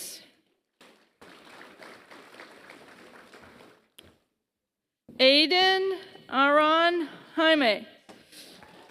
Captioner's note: applause; applause